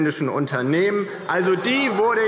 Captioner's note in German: Vereinzeltes Lachen AfD und Freie Demokraten